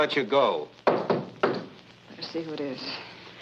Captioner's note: door knocks